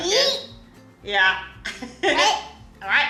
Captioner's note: laughing